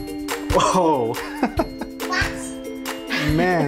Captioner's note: laughs